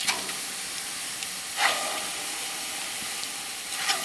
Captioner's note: sizzling